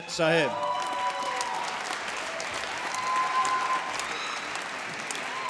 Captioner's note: applause